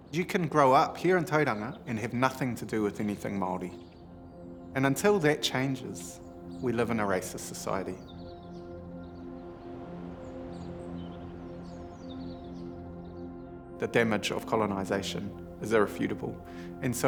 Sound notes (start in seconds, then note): 10.3 birds chirping; 10.3 contemplative music